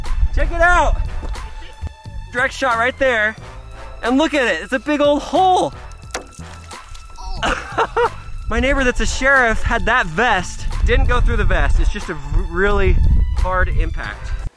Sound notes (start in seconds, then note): 5.8 water splashing; 7.2 laughs